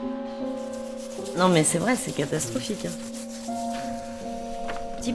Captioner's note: speaking french